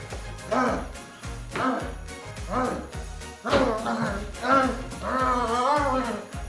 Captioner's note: upbeat ensemble music; Longbutt grunts